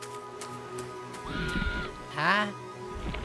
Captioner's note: muffled scream